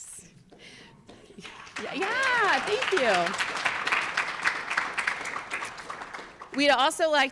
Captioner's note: audience applauds